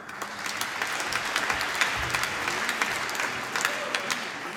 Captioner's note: applause